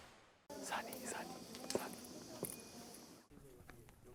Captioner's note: whisper